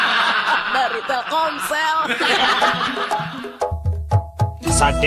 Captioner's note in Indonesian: tertawa